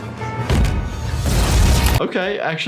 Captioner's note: flame whooshing